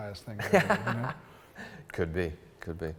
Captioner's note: laughs